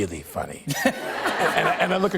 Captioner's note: laughter